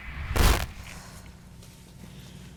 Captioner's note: static